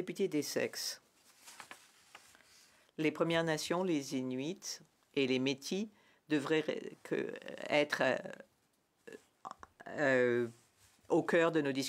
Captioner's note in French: voix de l'interprète